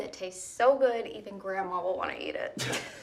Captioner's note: laughs